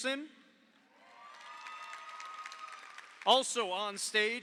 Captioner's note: audience cheers; audience applauds